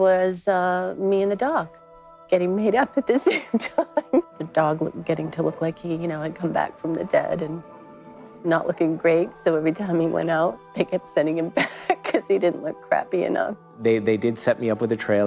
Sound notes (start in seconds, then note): 2.8 laughs